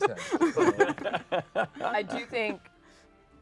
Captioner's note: laughter